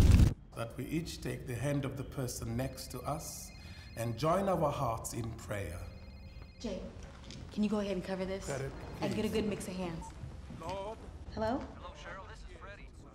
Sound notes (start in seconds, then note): 2.0 phone ringing